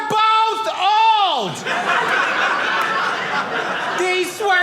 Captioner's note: audience laughing